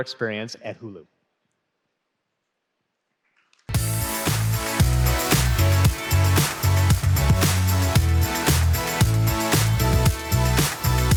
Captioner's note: applause